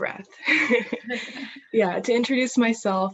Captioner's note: chuckles